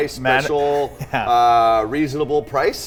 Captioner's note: laughs